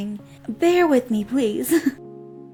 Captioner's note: chuckles